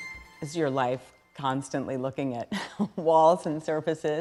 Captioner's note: chuckling